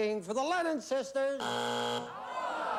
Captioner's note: buzzer